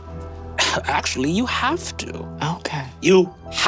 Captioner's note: laughs